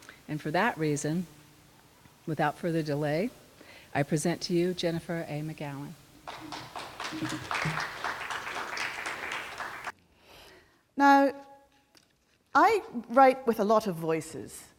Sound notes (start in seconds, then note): 6.2 clapping